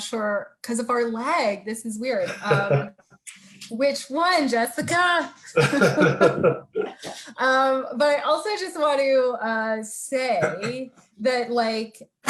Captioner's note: both laughing